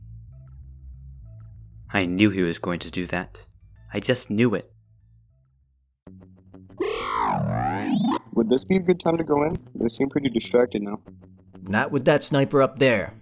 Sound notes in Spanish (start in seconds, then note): 6.7 sonidos robóticos; 8.4 con voz masculina diferente